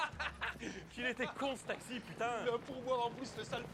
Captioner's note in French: rires